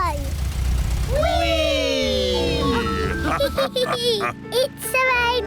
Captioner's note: all laugh